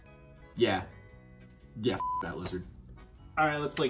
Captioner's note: beeps